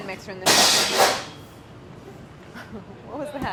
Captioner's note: crashing